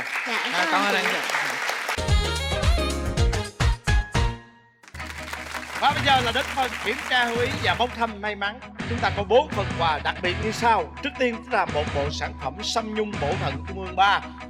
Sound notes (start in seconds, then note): 0.0 applause; 4.8 applause